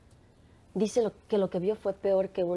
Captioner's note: speaking spanish